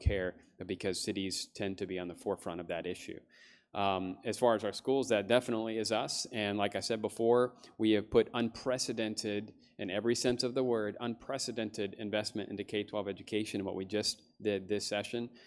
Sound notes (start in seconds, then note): none